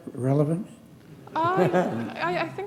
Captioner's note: laughter